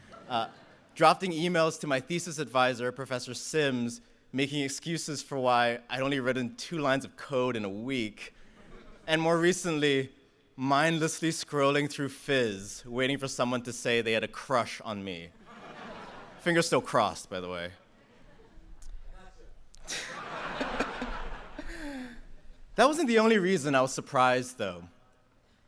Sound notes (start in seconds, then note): 19.8 laughter